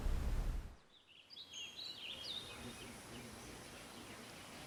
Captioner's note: birds chirping